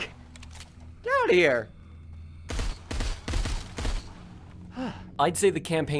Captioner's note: deep breath